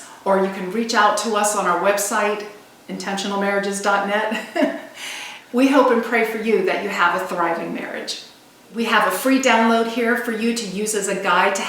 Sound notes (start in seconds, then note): 4.3 laughs